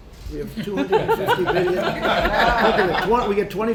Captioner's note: laughter